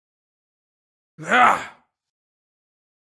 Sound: man's voice

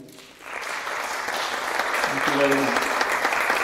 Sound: applause

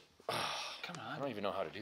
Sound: sighs

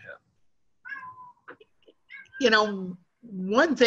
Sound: cat meows

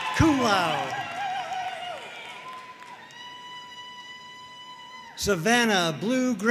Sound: audience cheering and applauding

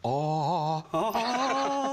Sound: laughghs

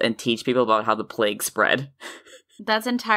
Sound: laughing softly

